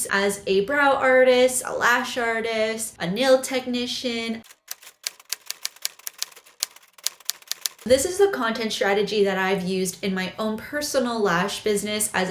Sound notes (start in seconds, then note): 4.6 clicking